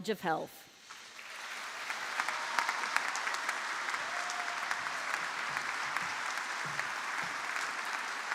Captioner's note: applause